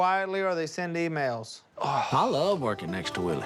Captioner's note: sighs